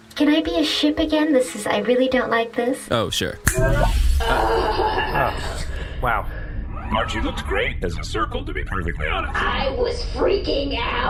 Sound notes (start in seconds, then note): 3.5 snaps fingers; 5.6 Bargie sighs in relief in her usual voice